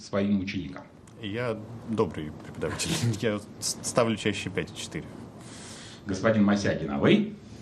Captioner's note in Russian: фыркает